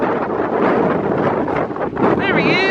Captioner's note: wind howling